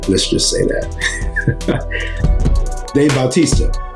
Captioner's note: laughs